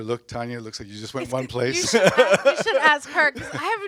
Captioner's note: laughs